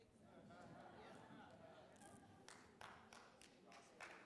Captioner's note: laughter